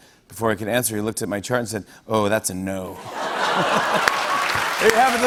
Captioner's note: laughter